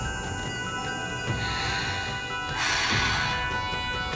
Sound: breathing

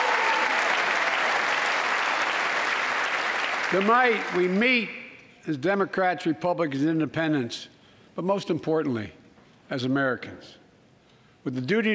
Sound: applause

